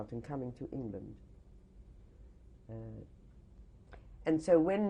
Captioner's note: pauses for 3 seconds